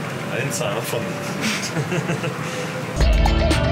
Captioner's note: laughter